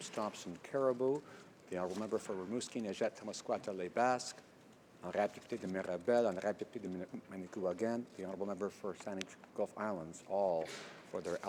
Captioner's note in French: voix de l'interprte